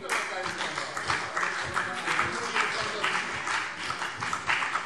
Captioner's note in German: Vereinzelter Beifall CDU und BÜNDNIS 90/DIE GRÜNEN